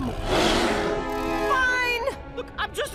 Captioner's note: growling